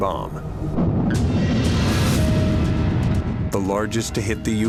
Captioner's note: explosion